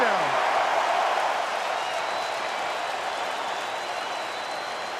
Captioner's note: cheering